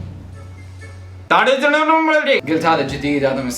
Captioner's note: imitating Urdu speech